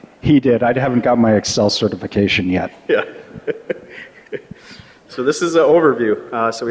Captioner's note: laughter